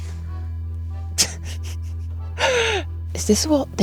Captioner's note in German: lacht